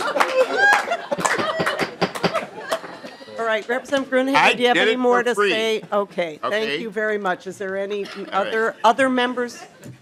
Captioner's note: laughing